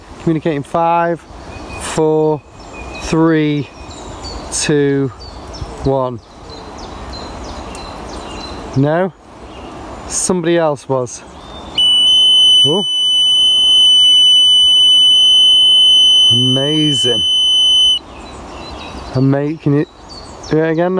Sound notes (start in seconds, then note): 6.6 birds chirping; 11.8 beeping